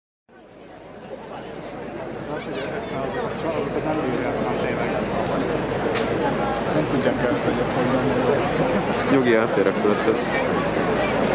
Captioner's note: milling crowd